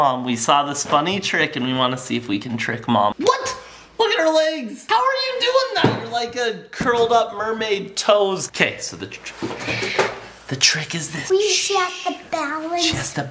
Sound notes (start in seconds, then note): 9.5 shushing